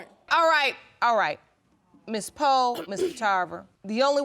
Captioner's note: clears throat